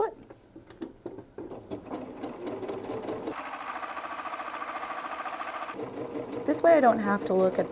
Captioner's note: sewing